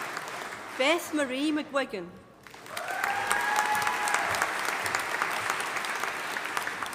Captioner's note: audience applauding